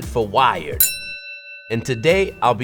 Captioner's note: bell dings